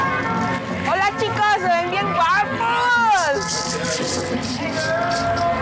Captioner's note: person speaking in Spanish